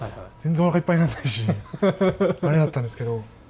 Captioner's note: laughs